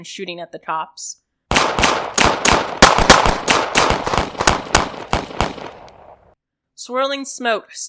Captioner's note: more gunfire